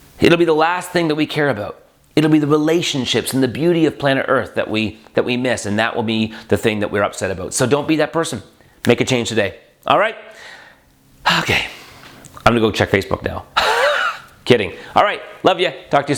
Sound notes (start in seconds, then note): 13.6 laughs